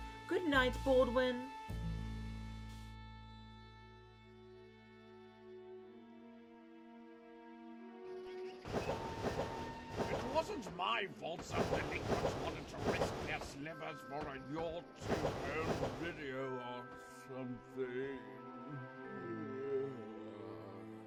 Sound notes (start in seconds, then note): 18.6 yawns